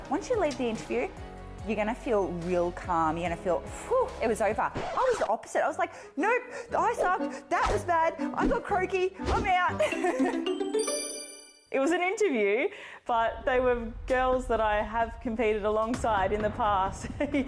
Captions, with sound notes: "Once you leave the interview, you're gonna feel real calm. You're gonna feel whew! It was over." I was the opposite. (record scratching) I was like, "Nope, I sucked. That was bad. I got croaky. I'm out." (laughs) (cheerful music) - It was an interview, but they were girls that I have competed alongside in the past.